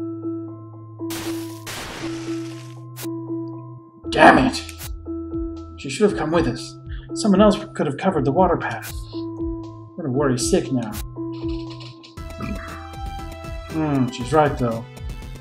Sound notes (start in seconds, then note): 12.4 burps